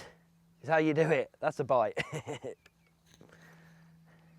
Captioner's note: laughs